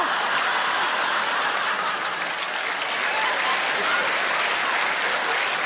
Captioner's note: audience applauds